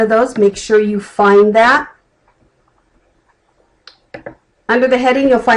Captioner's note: clicking